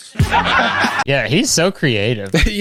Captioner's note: crowd laughs